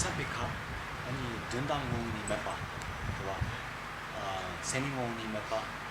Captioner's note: speaking in foreign language